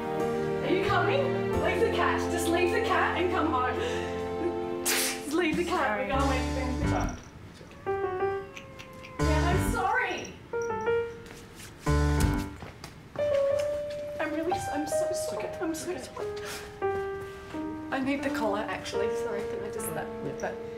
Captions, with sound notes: Are you coming? Leave the cat. Just leave the cat and come home. [Sneeze] - Just leave the cat. We're going. We have to go. - Sorry. [Cat meows] Yeah, I'm sorry. - I'm really... I'm so sorry. I'm so sorry. - It's okay. I need the collar, actually. Sorry can I just... That, that has to go.